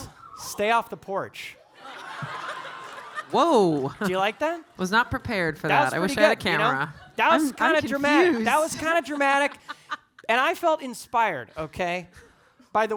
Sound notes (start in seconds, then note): 1.8 audience laughing; 2.5 audience applauding